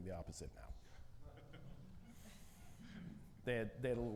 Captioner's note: audience laughing